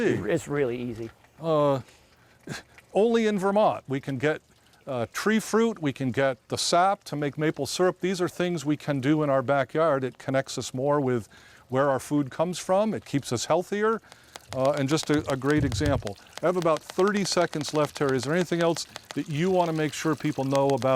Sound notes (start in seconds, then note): 16.4 cider spurting